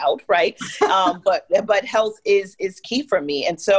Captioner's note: laugh